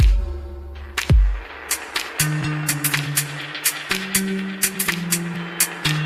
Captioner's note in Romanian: Aplauze